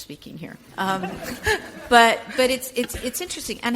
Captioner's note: audience chuckles